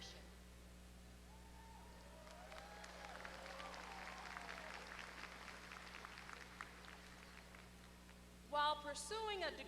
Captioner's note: applause